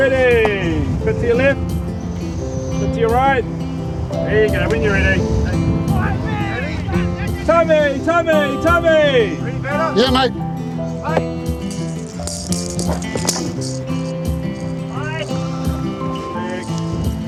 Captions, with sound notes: Tell me when you're ready! Bit to your left. Bit to your right. There you go. When you're ready. Thanks! Ready? To me! To me! To me! Ready, batter? Yeah, mate. (BALL RATTLES) (MAN YELLS) Leg.